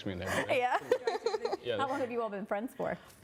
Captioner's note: laughter